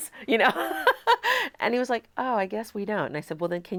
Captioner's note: chuckles